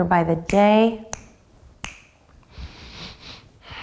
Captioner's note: snapping